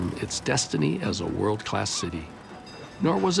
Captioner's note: bell rings